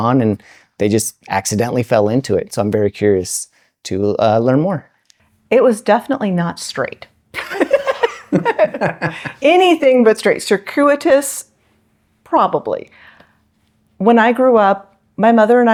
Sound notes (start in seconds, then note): 9.2 both laughing